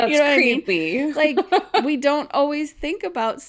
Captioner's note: laughs